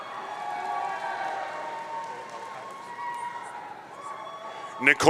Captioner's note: audience cheering